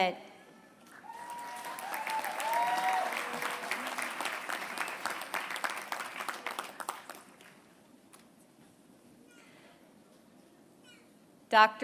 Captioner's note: applause